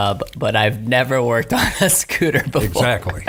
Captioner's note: laughing